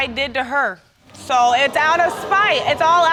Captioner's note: audience gasps